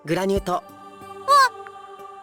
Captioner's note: gasp